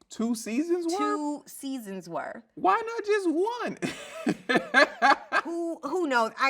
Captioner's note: laughs